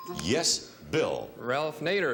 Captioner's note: bell dinging